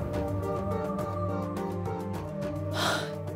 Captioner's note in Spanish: sollozos